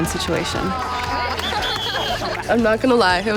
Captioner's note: cheers and whistles